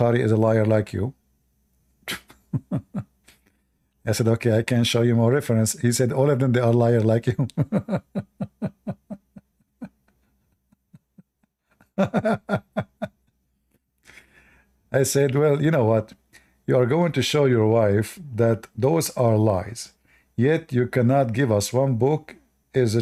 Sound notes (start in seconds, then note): 7.3 Ketawa